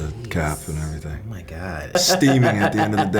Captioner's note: laughing